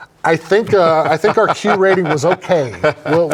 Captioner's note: laughs